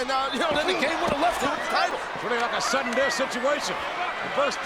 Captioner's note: body thuds